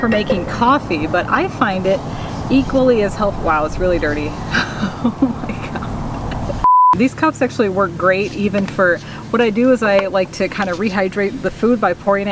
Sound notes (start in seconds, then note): 4.7 laughing